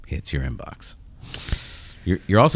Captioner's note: uh